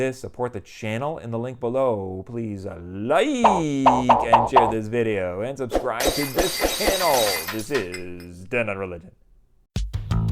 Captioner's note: popping sounds; glass breaking